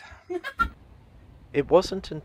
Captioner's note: laughs